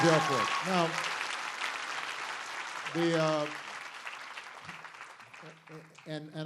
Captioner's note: applause